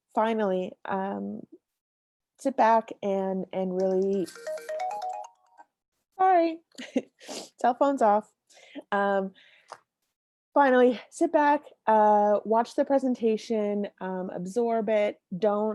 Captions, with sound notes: Finally, sit back and really... (cellphone chimes) Hi (laughs) cell phones off. Finally, sit back, watch the presentation, absorb it